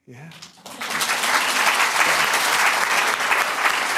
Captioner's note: applause